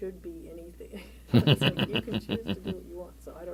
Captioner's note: laughter